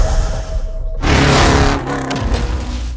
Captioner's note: engine roaring